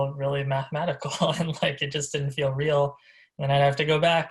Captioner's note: laughs